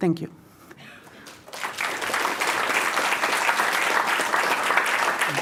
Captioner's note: applause